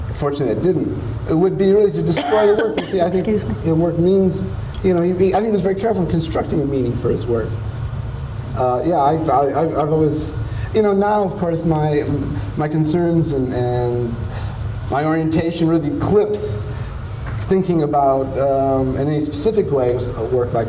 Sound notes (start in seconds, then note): 2.1 coughs